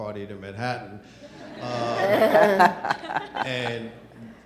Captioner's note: panelists and audience laughs